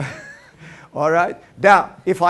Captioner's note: laughter